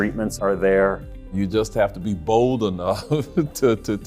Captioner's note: chuckles